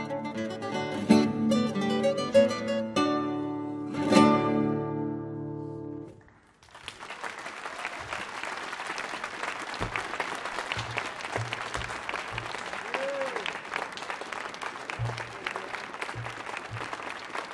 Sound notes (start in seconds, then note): 8.1 applause and cheers